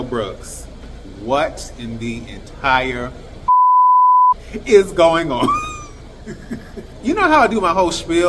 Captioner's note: beep